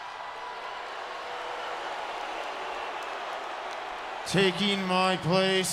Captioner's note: crowd cheering